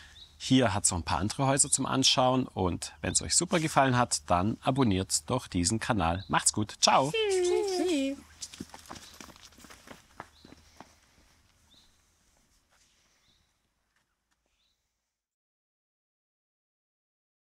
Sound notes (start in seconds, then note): 10.0 birds chirping